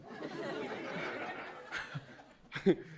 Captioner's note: audience laughing